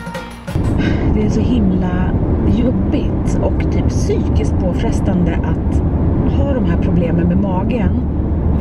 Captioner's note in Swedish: suck